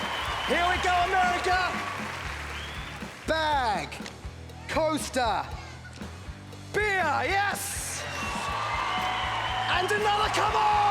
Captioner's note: cheering